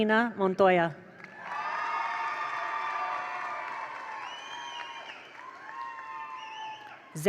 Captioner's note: attendees applaud; attendees cheer